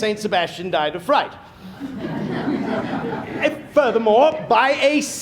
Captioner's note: laughter